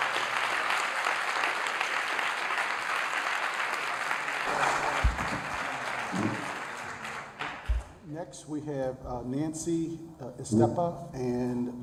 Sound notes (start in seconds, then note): 0.0 applause